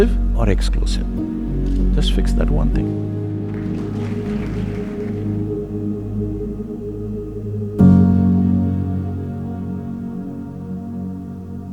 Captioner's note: applause